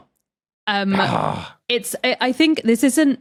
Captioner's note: growls